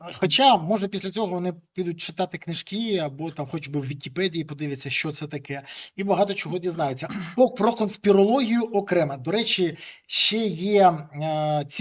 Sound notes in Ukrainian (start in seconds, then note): 7.0 прочищення горла